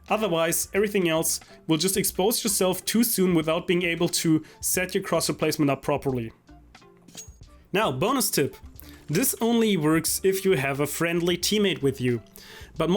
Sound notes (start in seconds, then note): 7.0 knife unsheathing